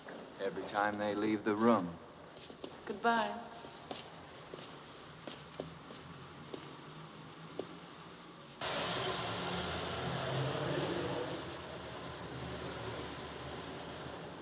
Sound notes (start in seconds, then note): none